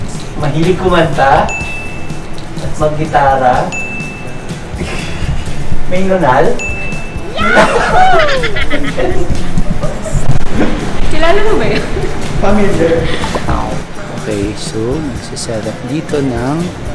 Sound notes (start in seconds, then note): 7.4 laughs